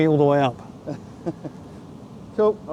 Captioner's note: laughing